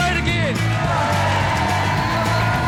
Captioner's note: crowd cheering